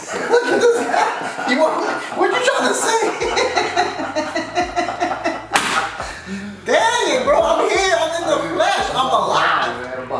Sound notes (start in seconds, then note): 2.9 men laughing; 5.5 hand clap